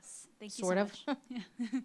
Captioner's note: laughs